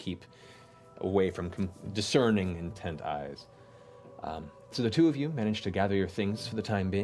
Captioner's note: none